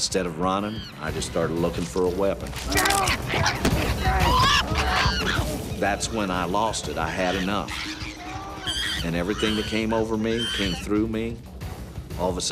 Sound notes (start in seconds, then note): 4.7 chimpanzee shrieking